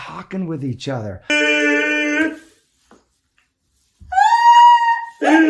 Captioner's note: couple laughing out loud